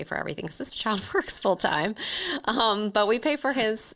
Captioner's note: laughs